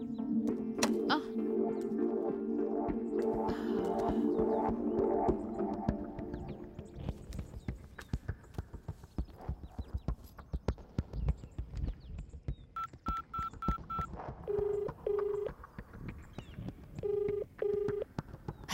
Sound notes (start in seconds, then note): 14.5 line ringing